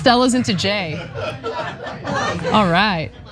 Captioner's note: laugh